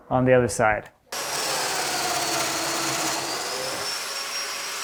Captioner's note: machine whirring